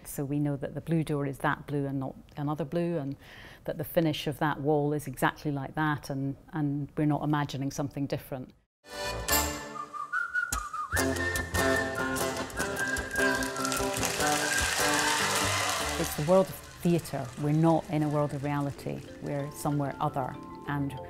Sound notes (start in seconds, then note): 13.6 audience applauds